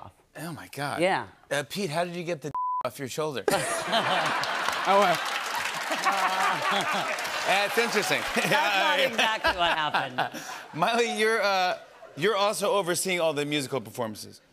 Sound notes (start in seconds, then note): 3.5 laughter; 5.7 cheers and applause